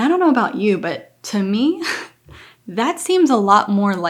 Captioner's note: chuckling